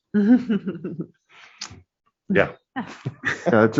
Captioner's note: chuckle